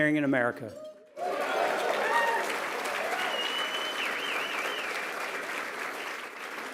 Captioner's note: applause